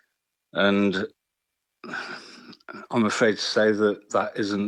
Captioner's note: sighs